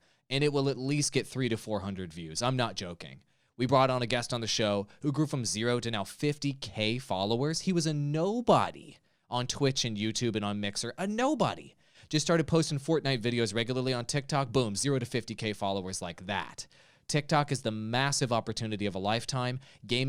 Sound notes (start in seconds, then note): none